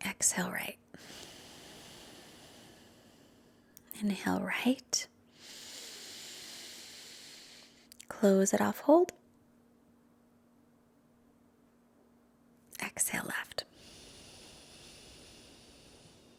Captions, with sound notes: Exhale right. (exhales deeply) Inhale right. (inhales deeply) Close it off, hold. Exhale left. (exhales deeply)